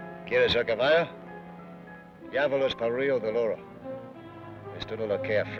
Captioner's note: Ben speaks foreign language